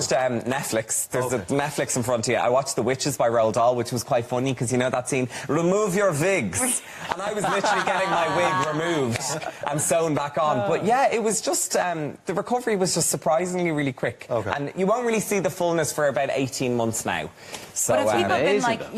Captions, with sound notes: I watched Netflix and I watched The Witches by Roald Dahl which was quite funny because you know that scene, "remove your Vigs" (laughing) and I was literally getting my wig removed The recovery was just surprisingly really quick You won't really see the fullness for about 18 months now